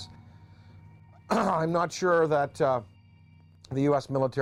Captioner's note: clears throat